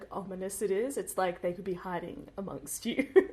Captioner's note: laughs